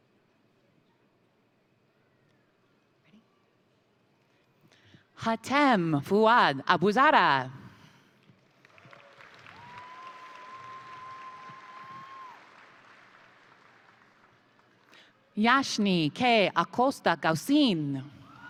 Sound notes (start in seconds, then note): 8.5 crowd applauding; 8.7 crowd cheering